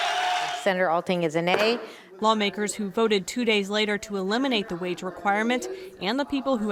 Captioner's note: cheers